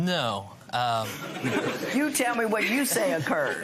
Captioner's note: laughter